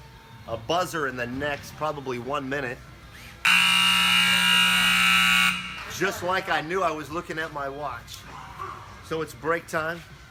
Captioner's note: buzzer